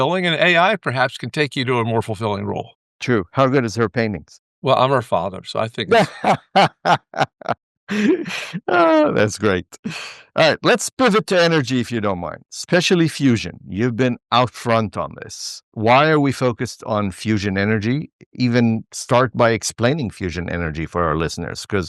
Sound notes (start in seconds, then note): 5.8 laughter